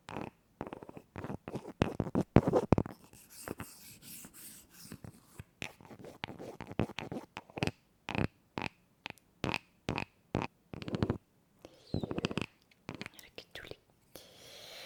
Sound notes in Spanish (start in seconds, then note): 11.7 resoplido